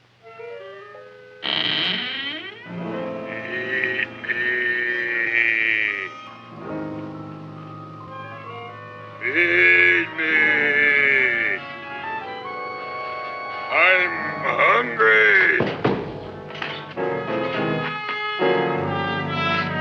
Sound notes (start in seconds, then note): 0.2 mysterious music; 1.4 Audrey Jr. creaking; 15.9 chair clatters; 17.0 dramatic music